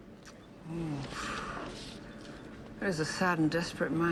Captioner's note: Freda sighs